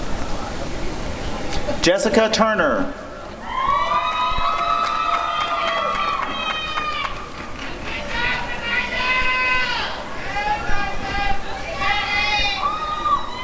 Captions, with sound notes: Jessica Turner [applause and cheering]